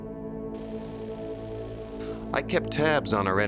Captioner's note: static buzzing